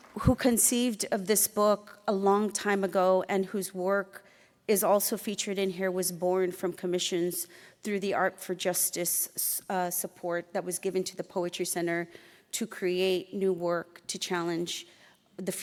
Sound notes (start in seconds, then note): none